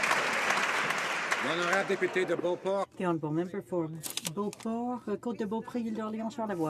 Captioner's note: some Applause